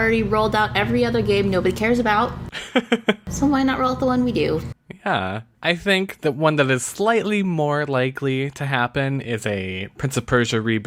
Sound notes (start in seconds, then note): 2.5 laughs